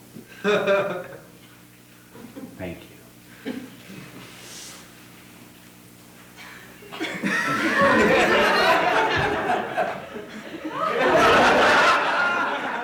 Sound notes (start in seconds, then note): 6.9 audience laughing